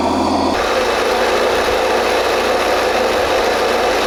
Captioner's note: motor running